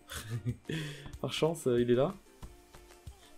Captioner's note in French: rires